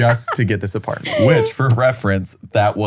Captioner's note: laughs